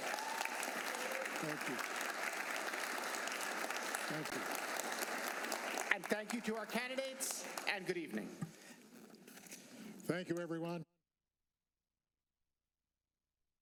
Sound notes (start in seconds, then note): 3.2 applause